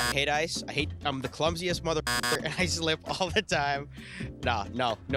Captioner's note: beep; beep